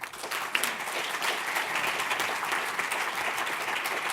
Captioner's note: audience applauding